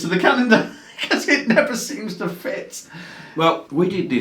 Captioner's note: laughs